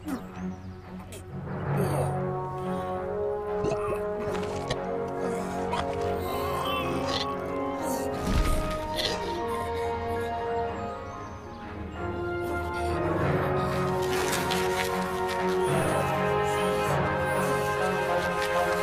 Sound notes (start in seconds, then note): 3.5 groaning